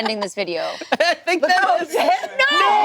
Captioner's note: group exclaiming